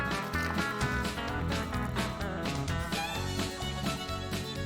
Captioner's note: water splashing